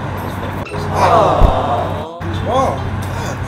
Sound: crowd

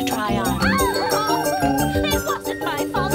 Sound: witch cries out

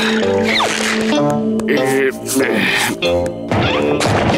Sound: sighing

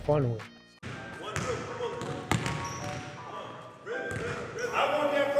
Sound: bright music; ball dribbling

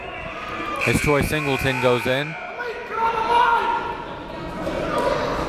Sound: buzzer dings

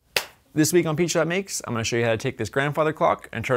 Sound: clap

